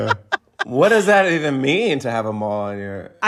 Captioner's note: laughter